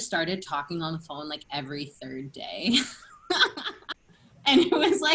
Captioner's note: laughter